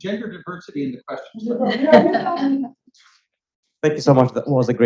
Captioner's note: woman laughs